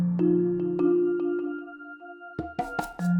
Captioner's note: none